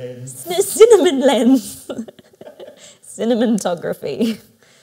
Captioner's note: laughs